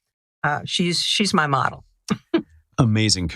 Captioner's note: laugh